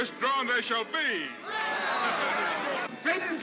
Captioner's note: crowd cheers